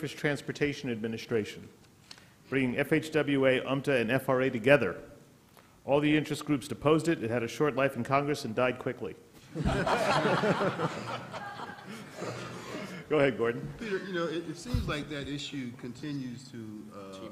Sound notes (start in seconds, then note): 9.4 laughter